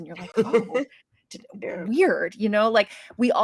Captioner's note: cast laughing